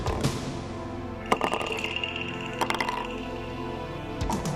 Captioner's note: suspenseful music; bottles rattling